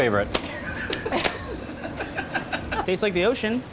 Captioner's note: laughing